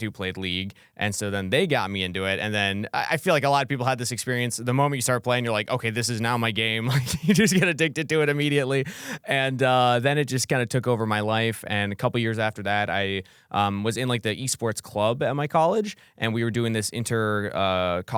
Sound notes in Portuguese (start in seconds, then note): 6.8 risos